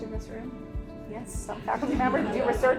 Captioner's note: attendees laughing